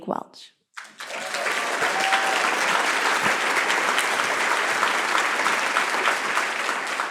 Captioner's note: applause